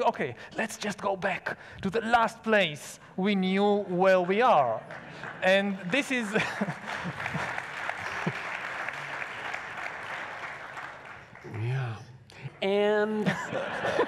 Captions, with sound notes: okay, let's just go back to the last place we knew where we are. And this is. (laughs) (audience applauds) - Yeah, and. (laughs)